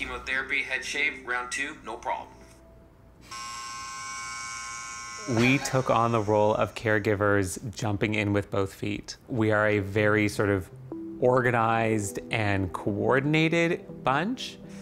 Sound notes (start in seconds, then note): 3.2 buzzing